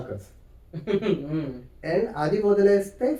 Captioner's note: laugh